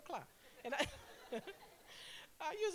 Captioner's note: laughter